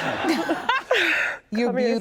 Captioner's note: laughing